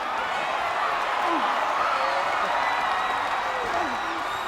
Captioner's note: crowd cheers